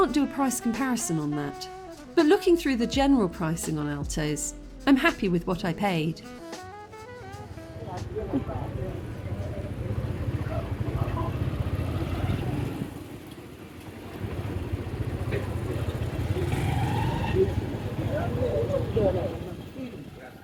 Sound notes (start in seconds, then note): 7.5 moto engine; 7.5 street noise